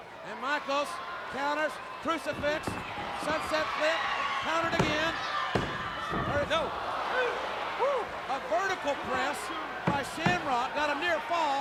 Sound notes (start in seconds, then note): 4.7 pounding mat